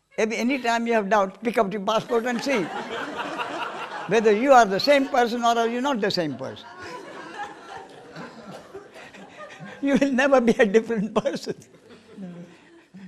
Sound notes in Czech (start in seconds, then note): 8.8 smích